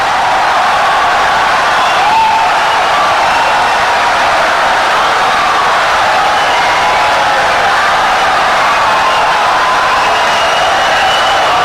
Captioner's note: wild applause and cheering for 17 seconds